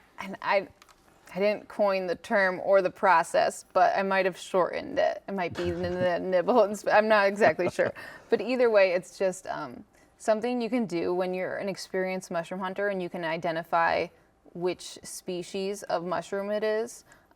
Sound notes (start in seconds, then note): 7.4 laughs